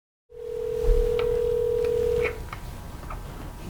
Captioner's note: phone ringing